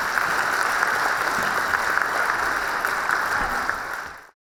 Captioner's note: audience applauding